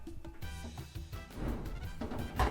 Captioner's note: dryer door closes